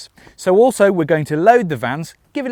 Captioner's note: none